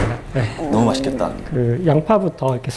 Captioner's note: growl